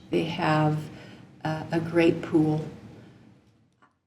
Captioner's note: none